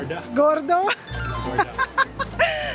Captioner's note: laughing